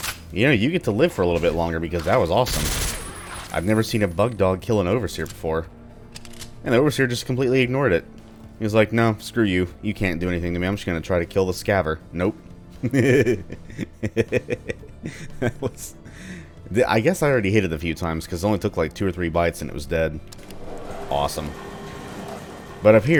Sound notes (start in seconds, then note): 2.4 Ingram firing; 12.8 chuckles